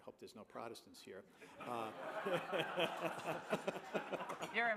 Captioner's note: laughter